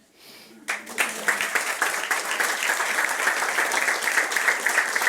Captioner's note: friends applauding